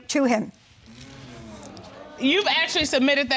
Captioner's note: audience sighing